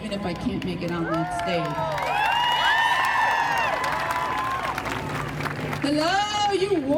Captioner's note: crowd cheering and applauding